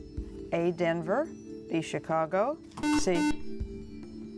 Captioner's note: buzzer